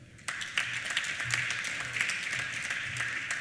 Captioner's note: applause